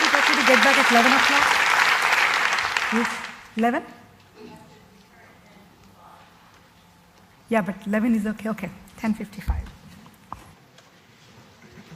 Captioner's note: applause